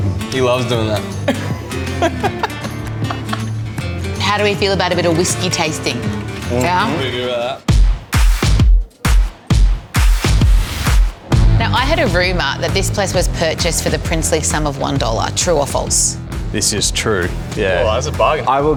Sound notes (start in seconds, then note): 1.0 laughing; 8.2 bright upbeat music